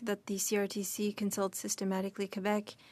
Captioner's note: speaking French